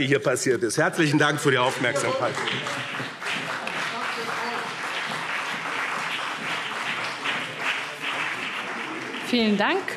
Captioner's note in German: Beifall BÜNDNIS 90/DIE GRÜNEN und CDU